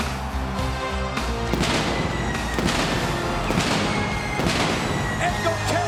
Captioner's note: pyrotechnics detonating; upbeat music